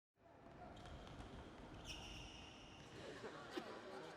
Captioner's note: shoes squeaking